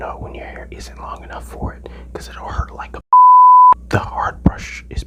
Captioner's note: beep